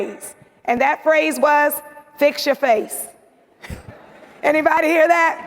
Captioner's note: laughs